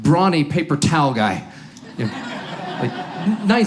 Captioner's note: audience laughs